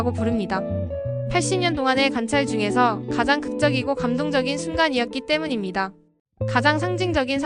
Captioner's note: speaking Korean